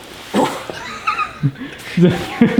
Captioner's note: laughs